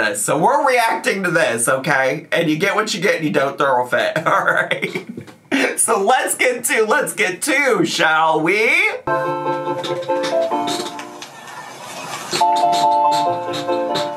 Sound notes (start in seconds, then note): 4.2 laughs; 9.0 bright music; 9.6 chair squeaks